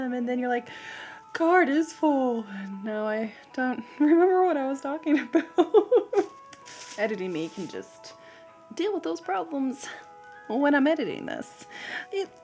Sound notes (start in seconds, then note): 5.3 laughs